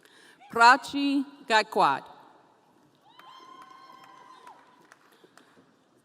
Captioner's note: audience cheering